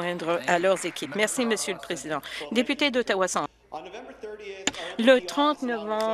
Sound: applause

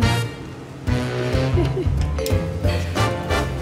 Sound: laughter

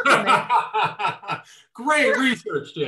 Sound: laughing

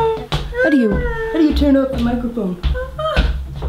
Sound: Melania crying in background

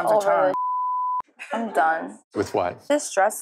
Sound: beep

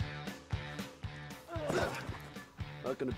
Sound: grunting

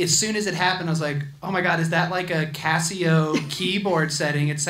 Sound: laughs

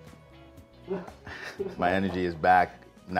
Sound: laughing

